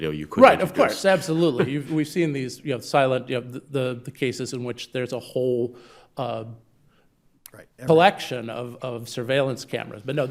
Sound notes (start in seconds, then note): 1.1 chuckles